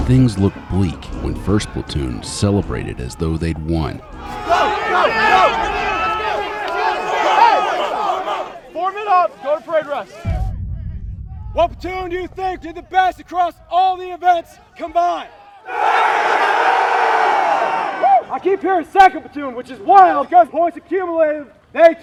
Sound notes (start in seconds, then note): 15.9 trainees yelling